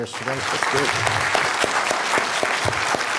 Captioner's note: applause